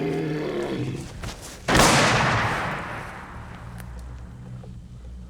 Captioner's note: animal growls; gunshot